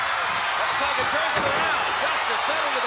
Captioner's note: blows thudding; head thudding